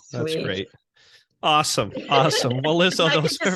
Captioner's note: laughing